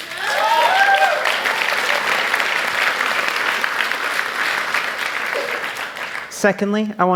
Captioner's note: applause